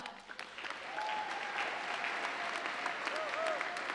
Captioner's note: audience applauding